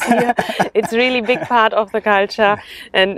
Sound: both laugh

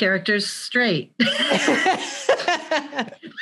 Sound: both laugh

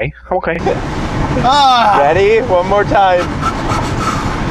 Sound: quick breaths, psyching himself up

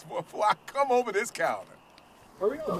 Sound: laughing

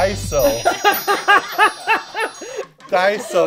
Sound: laughter

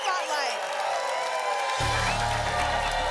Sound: applause continues

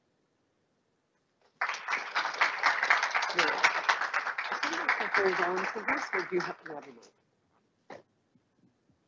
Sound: applause

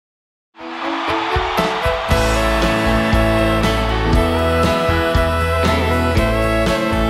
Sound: audience cheering; wistful country music

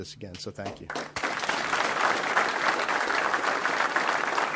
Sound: audience applauds

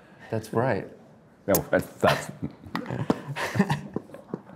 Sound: Drew laughs

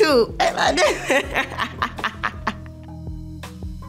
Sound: laughs; soothing music

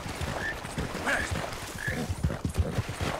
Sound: none

